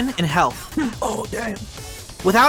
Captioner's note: cough